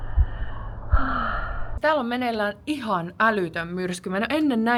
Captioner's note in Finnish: huokaus